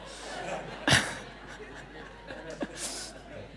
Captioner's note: laughing